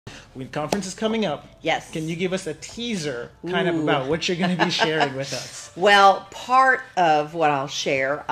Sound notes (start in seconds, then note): 4.0 laughs